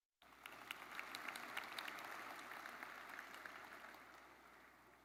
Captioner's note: audience applauds